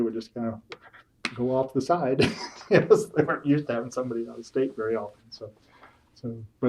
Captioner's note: laughs